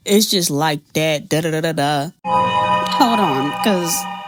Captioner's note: fake mans voice